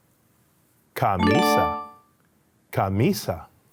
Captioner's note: upbeat tone chimes